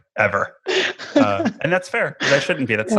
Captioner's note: laughing